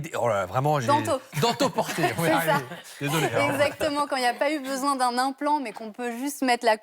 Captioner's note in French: rires